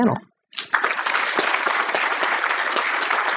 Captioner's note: applause